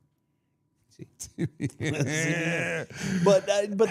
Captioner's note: group laughs